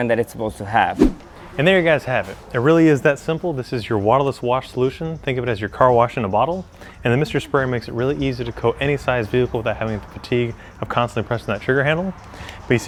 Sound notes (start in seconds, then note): 0.9 camera whooshes